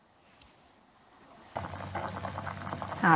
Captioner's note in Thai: เสียงน้ำเดือด